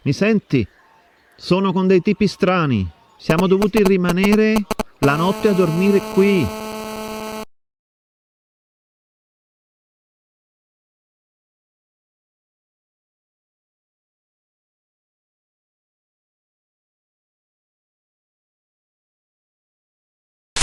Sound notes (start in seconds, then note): 7.1 phone with interference